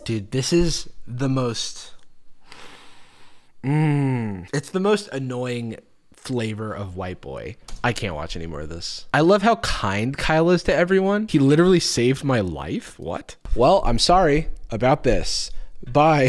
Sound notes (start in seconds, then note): 2.4 deep breath; 3.6 groans